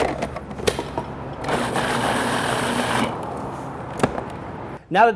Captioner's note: food processor whirs